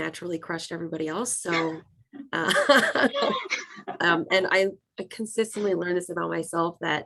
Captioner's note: laughs